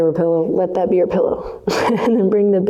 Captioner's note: laughs